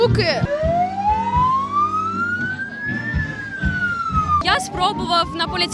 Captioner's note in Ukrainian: звук сирени